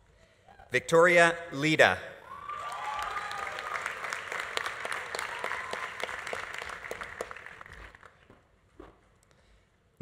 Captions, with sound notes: Victoria Leda. (audience applauding) (audience cheering)